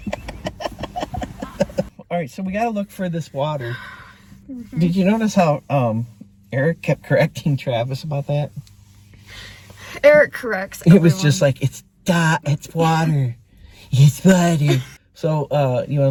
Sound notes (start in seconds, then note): 3.5 Kandus sighs